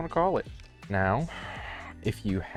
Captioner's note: sigh